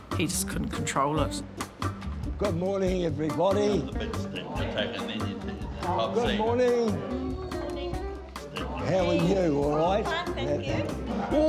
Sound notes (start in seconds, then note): 5.1 quiet chatter